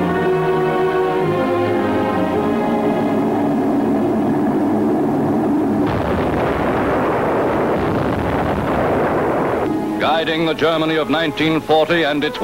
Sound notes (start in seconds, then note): 2.9 airplane roaring; 6.2 explosions booming